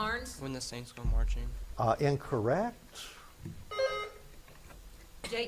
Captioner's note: buzzer beeps